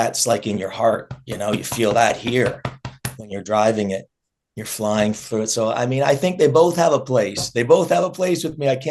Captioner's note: clapping his chest